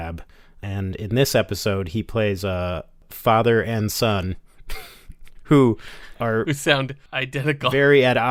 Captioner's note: laughing